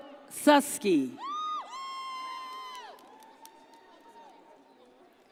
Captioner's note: audience cheers